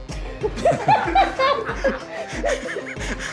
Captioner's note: laughter